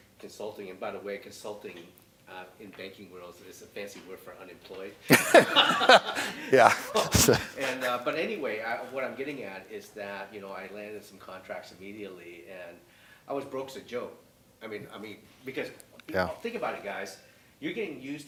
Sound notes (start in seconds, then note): 5.0 laughter